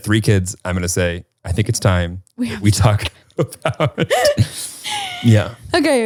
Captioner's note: laughs